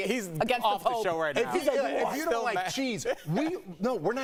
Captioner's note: laughter